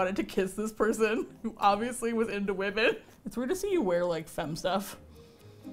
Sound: laughing

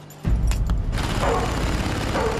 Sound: barking

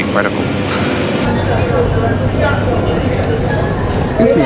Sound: chuckles

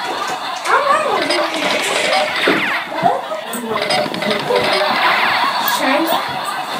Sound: running

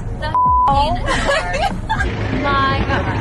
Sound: laughter

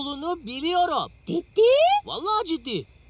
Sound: alien talking

